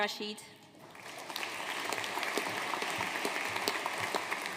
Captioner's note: audience applauding